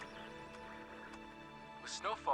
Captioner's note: radio squealing; announcer On Radio